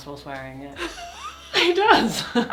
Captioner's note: laughs